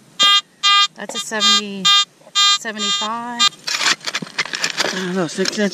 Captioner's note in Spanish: pitido